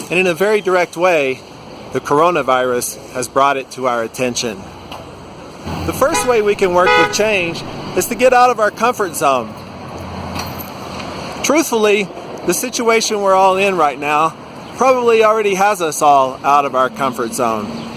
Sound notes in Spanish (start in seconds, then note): 5.8 sonido de bocina